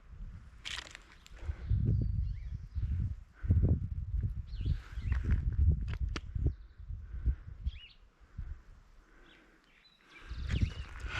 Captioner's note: wind blowing